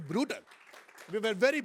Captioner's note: applause